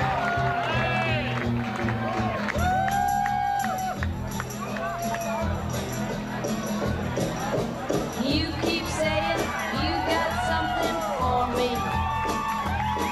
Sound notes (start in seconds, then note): 0.0 applause; 6.2 cheers